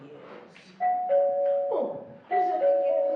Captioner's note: doorbell ringing